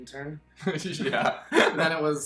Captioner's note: laughing